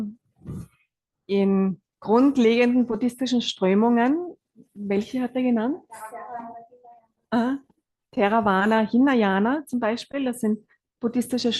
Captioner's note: German live translation